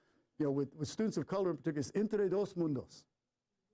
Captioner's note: foreign language